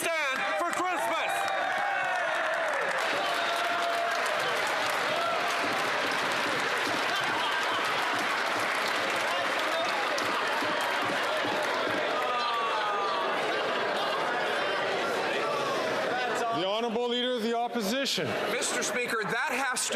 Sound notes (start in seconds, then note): 5.4 some Applause